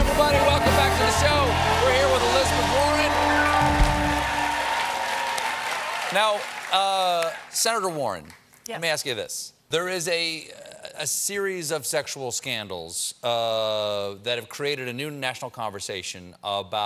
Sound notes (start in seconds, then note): 3.6 cheers and applause